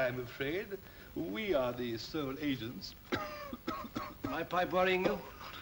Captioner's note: coughs; gasping softly